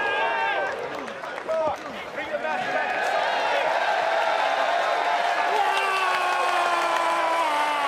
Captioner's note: crowd cheers